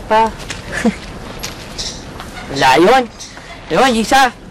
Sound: chuckles

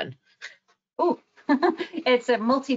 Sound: laughs

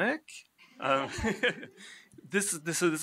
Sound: laughs

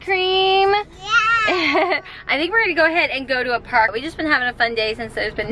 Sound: laughs

